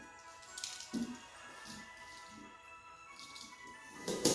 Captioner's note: pencil clicking